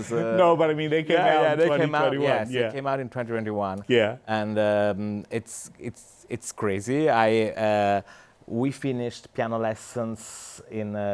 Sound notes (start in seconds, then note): none